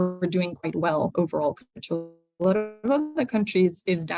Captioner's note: distortion